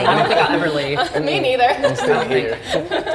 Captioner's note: laughter